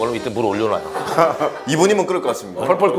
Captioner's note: hahaha